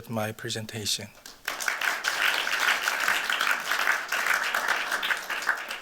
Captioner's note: applause